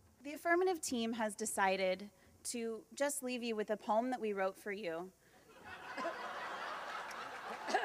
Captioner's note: laughter